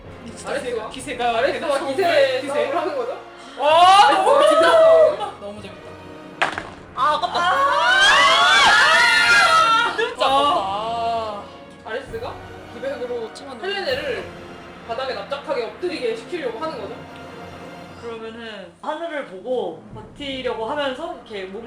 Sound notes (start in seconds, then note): 6.2 dice rolls; 7.6 sad scream